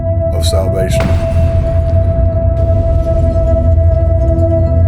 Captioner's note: shattering